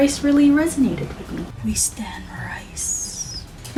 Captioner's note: whispers emotionlessly